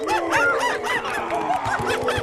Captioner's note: hooting